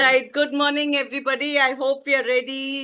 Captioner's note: Hindi